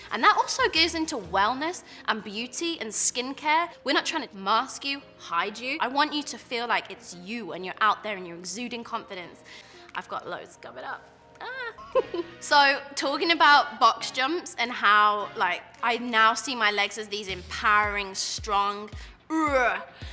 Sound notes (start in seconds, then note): 11.8 laughs loudly